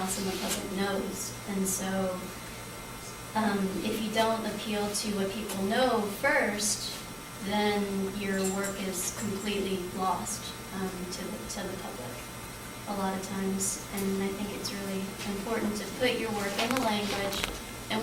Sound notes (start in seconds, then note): none